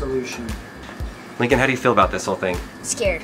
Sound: voiceover

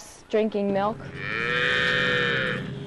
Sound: cows mooing

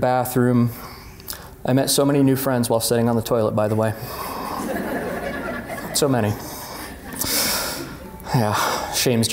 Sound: laughter

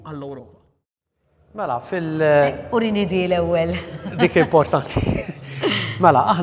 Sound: both chuckle

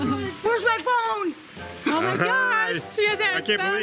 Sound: laughs

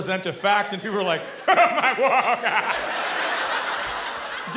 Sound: laughing

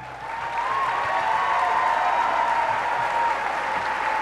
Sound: applause

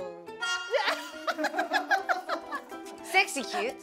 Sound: hahaahahaahahaha

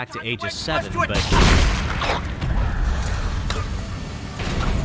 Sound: gunshot

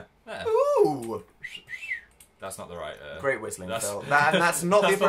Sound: whistles

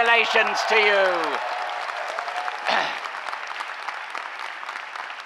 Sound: cheering applause

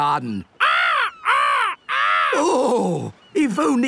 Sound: seagulls cries

